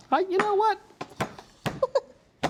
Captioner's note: chuckles